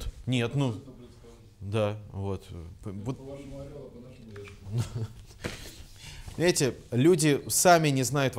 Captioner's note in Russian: посмеивается